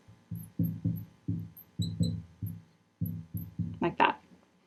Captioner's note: marker knocking; marker scratching